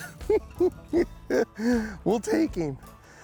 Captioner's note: chuckles